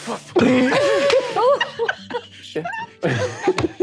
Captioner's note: all laughing